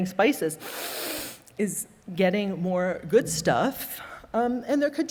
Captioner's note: inhales deeply